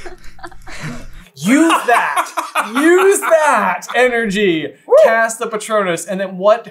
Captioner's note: laughter; exaggerated laughter